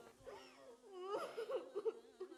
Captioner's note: crying